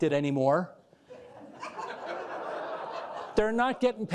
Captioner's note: crowd laughing